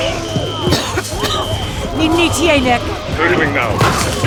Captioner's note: coughs